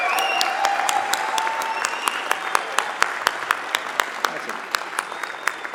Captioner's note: applause